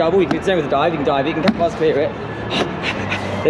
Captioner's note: pant pant pant